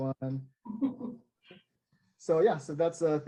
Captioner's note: laughs